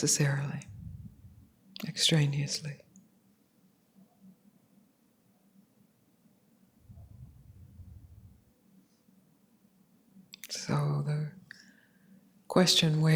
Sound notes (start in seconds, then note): none